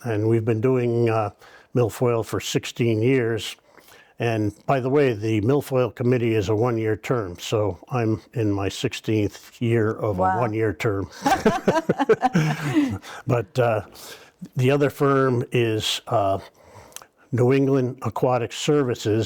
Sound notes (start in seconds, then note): 11.1 laughing